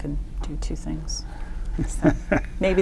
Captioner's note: chuckles